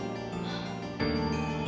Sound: sigh

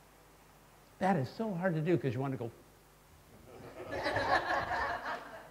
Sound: laughter

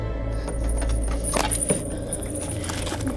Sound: door opens

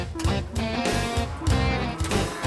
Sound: crane tooting

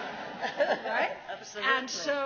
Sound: laughs

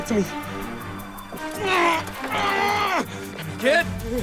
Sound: grunts

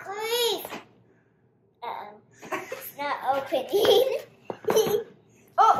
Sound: giggles

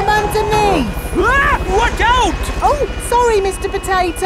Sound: screams

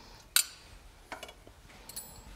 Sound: rattling

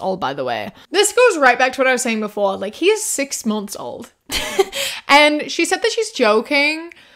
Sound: laughs

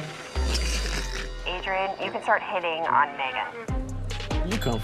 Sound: laughs

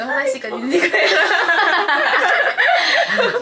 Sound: laughing

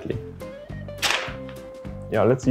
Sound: paper rips

